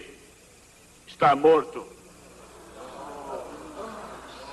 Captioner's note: gasping and murmuring